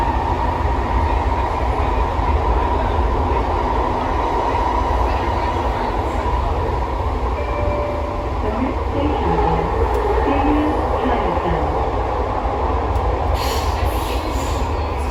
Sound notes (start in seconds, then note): 7.4 next Station Chime